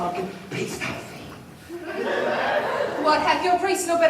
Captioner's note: laughter